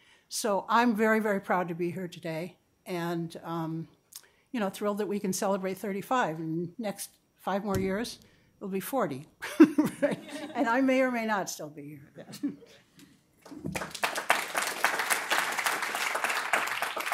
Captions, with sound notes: So I'm very, very proud to be here today and, you know, thrilled that we can celebrate 35. And next five more years, it'll be 40. [CHUCKLING] And I may or may not still be here then. [APPLAUSE]